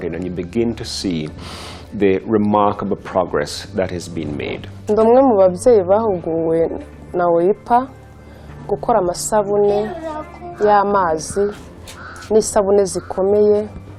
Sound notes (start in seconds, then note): 5.3 speaking in Kinyarwanda